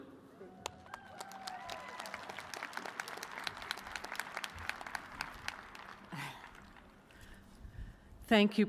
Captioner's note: cheers and applause